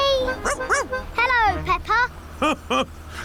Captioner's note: barks; laughs